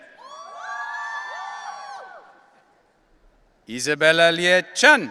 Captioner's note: audience cheering